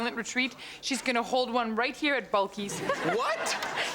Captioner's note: audience laughs; laughs